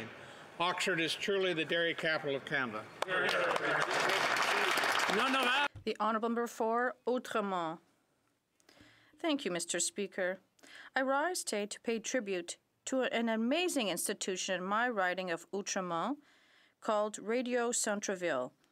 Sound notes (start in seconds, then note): 5.7 some Applause